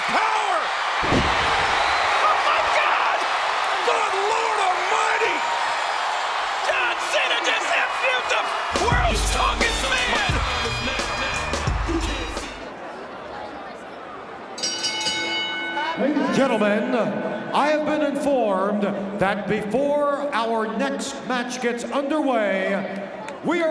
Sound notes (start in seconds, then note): 1.7 audience cheers; 5.4 audience cheers; 13.0 audience chattering; 14.6 bell rings